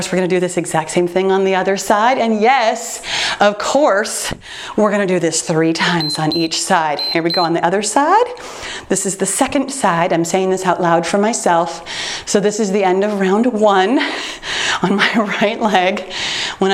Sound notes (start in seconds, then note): 6.9 timer beeps